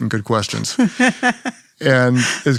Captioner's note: Priscilla laughs